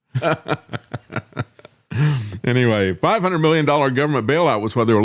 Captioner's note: laughing